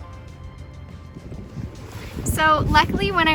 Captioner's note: ethereal music; wind blowing